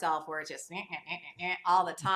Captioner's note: gasps